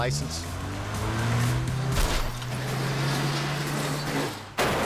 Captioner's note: car revving